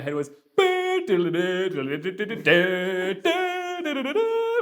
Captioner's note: vocalizes